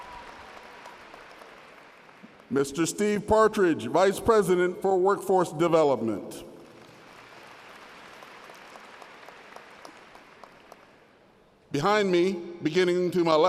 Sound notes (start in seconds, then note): 0.0 applause; 9.2 applause